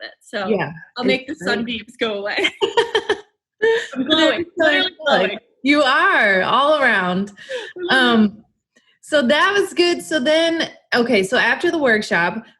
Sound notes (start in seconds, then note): 1.8 both laugh